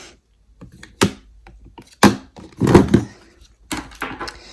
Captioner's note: item thudding